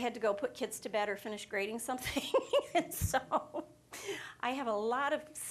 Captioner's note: laughing